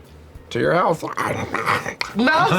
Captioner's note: chomps